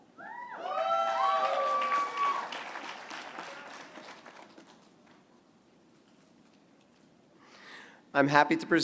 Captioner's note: applause